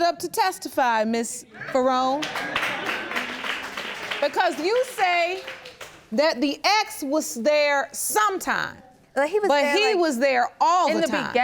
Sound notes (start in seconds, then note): 2.1 audience clapping